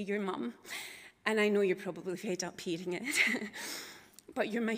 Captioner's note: chuckles